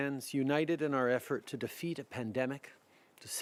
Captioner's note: speaking French